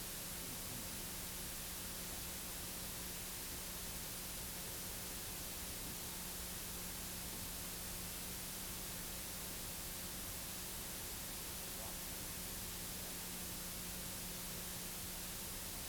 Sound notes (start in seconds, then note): none